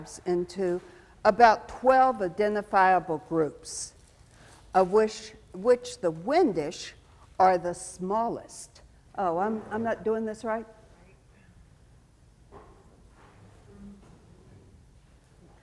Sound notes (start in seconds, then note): 11.9 speaks faintly